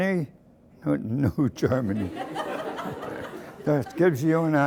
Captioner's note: chuckles